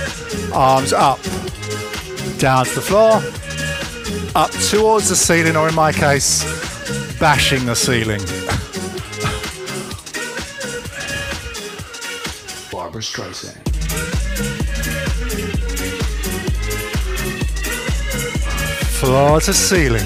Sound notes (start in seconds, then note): 11.0 breathing heavily